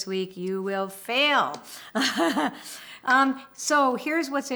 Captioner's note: laughs